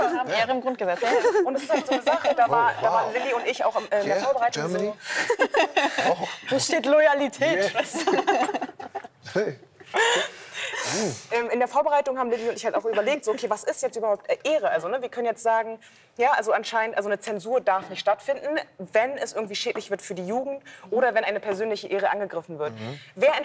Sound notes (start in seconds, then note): 7.8 laughter